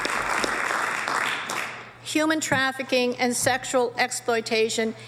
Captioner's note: applause